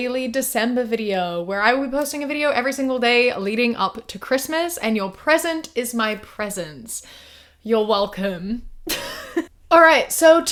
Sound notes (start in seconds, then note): 9.3 laughs